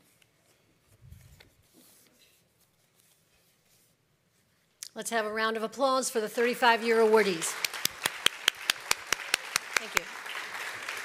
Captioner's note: applause